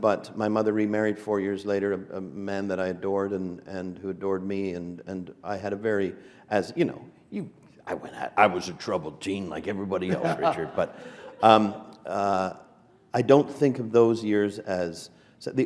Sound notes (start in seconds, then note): 10.0 laughter